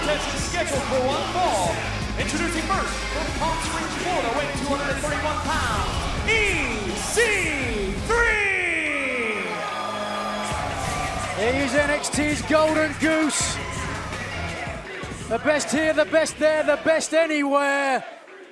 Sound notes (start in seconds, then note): 8.6 cheers and applause